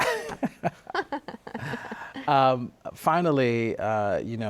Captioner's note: both laugh